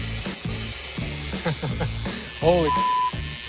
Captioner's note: chuckles